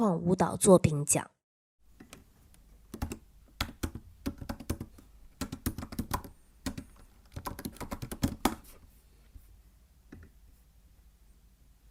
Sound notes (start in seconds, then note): 2.1 sound of typing